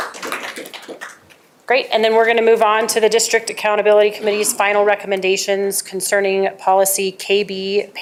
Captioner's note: applause